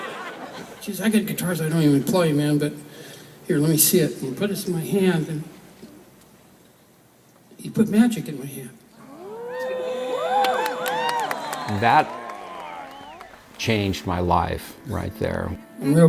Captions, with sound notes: [ Audience whooping and clapping ] That changed my life right there.